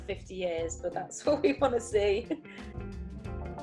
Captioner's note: chuckles